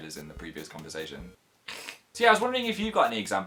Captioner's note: hiss